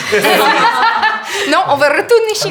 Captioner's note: laughter